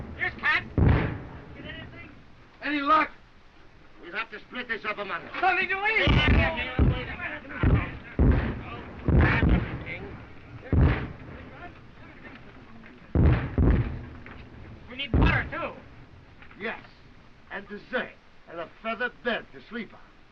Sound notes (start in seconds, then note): 7.5 all clamoring